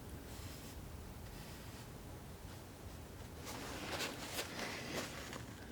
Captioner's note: scratching